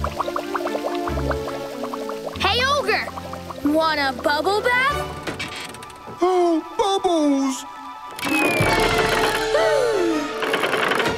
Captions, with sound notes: Hey, ogre, want a bubble bath? Oh, bubbles! [gasping]